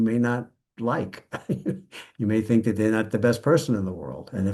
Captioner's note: laughs